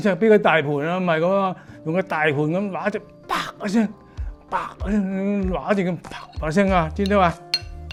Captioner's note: slap